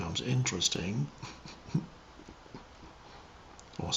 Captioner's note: laughs